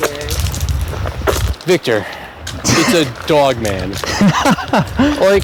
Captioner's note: Victor laughs